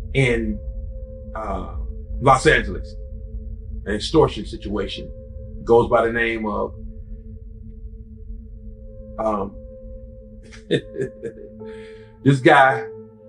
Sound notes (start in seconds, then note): 10.5 laughs